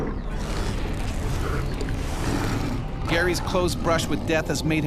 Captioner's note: growling